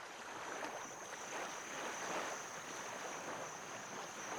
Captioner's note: insects chirring